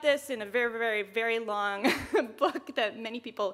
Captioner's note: chuckles